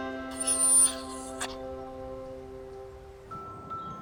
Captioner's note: Ted whimpers